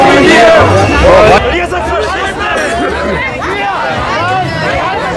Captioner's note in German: Jemand in der Menge ruft